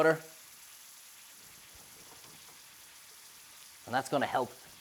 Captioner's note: pan sizzles